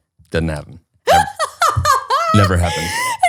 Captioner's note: laughs